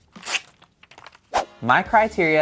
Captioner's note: paper rips